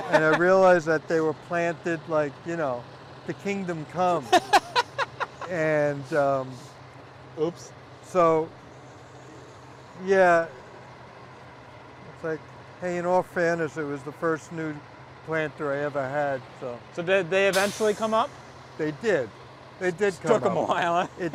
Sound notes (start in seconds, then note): 4.1 laughs